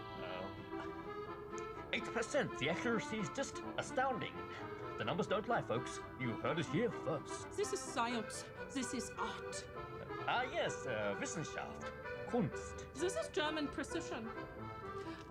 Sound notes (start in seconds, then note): 11.4 speaks German